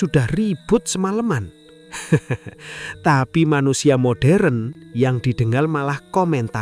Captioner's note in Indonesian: tertawa